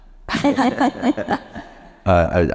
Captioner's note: panelists laughing